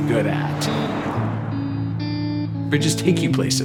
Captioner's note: cars whooshing